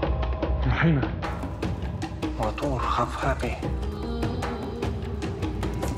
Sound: speaking in foreign language

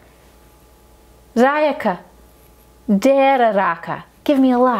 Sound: speaking foreign language

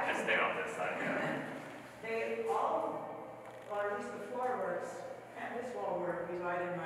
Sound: chuckles

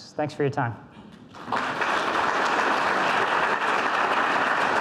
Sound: audience applauds

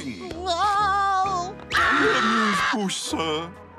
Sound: screaming

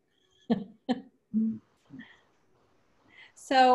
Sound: person laughs

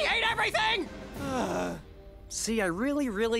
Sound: sighing

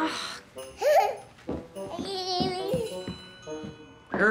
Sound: baby giggles

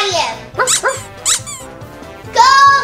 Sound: toy squeaks

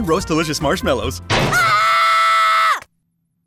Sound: screaming

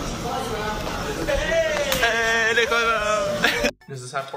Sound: laughing

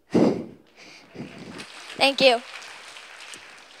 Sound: applause

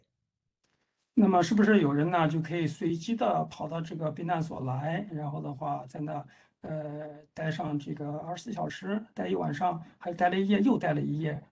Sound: speaks in Mandarin

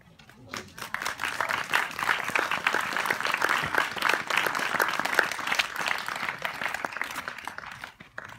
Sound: applause

